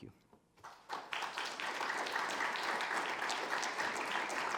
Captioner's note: audience applauding